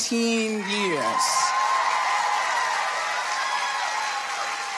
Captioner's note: audience applauding